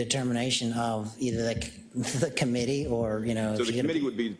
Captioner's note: laugh